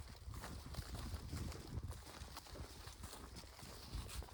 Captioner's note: footsteps